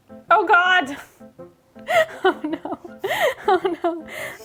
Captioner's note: laughs